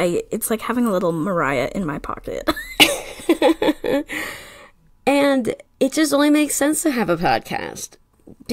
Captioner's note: laughs